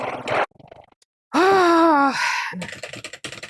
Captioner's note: heavy sigh